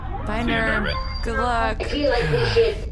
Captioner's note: end transmission noise